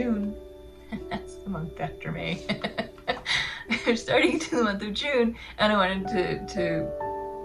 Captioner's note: laugh